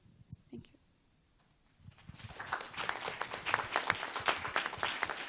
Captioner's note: applause